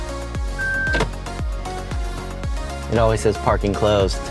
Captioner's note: beeping